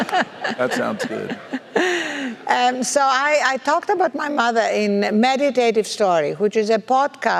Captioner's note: laugh